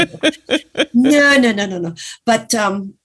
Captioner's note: laughs